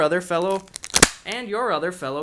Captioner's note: gun cocking